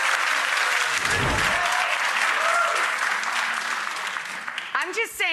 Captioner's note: audience clapping